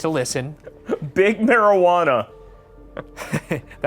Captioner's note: laughing; Ryan laughing